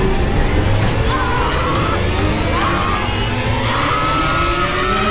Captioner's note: screaming